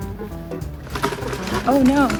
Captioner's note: hitch snaps